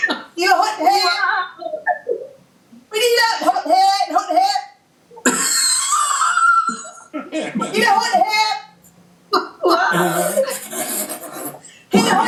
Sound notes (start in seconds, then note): 5.2 laughing; 10.2 laughs through closed lips, group laughter